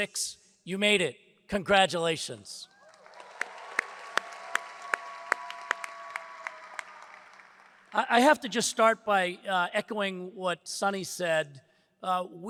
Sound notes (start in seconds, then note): 2.8 audience applauds; 2.8 hands clapping